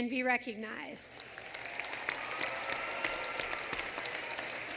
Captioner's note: applause